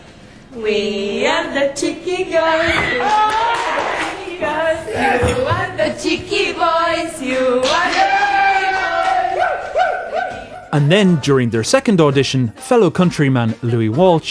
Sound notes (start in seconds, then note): 2.7 claps and cheers; 7.5 claps and cheers